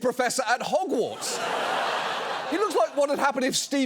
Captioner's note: studio audience laughs